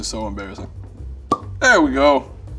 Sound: cork pops

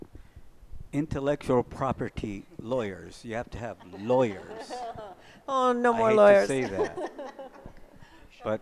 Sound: laughs

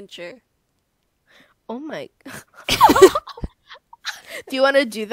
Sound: laughs

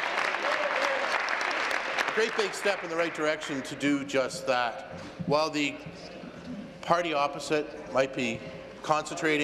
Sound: applause

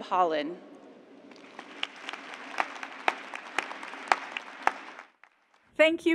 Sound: cheers and applause

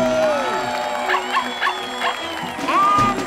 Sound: barking

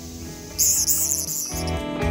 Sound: cicada noises

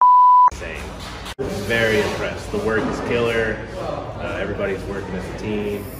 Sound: beep

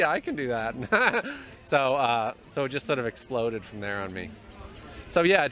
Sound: laugh

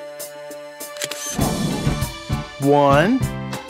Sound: SFX: Camera Shutter

